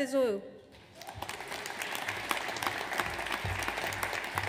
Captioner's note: audience applauds